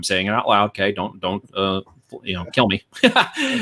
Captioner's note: laughs